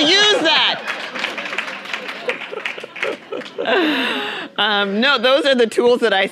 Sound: audience applauding

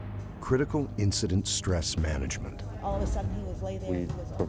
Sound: voiceover

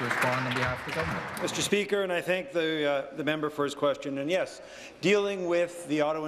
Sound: applause

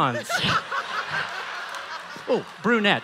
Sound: laughing

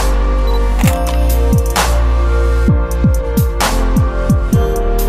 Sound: camera beeps and shutter clicks; upbeat music

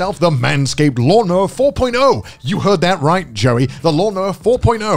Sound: none

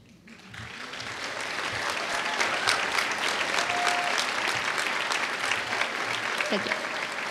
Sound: applause

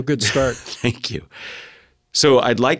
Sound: laugh

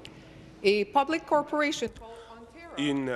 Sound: speaking in French

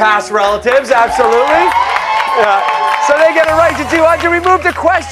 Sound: cheers and applause

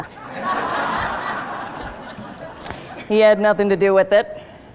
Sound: laughter

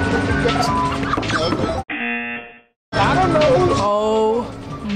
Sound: laughs; buzzer rings

